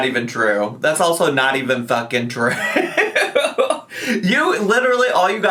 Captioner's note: laughs